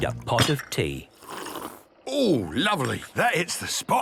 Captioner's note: sipping